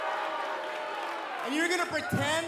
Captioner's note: cheers & boos